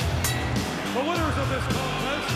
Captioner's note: upbeat rock music; bell dinging